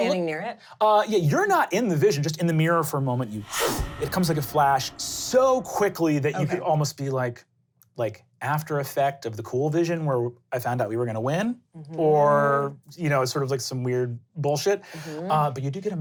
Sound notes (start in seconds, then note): 4.1 inhaling